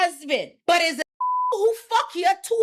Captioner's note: beep